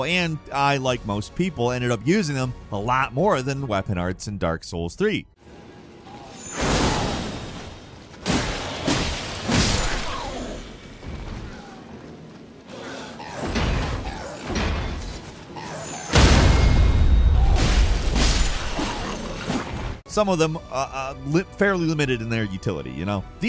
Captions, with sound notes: and I, like most people, ended up using them a lot more than weapon arts in "Dark Souls 3". (weapon whooshing) (monster grunting) Some of them are fairly limited in their utility, you know?